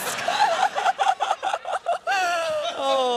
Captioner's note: laughter